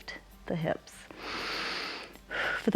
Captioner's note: inhales and exhales